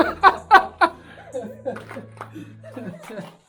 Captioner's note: laughter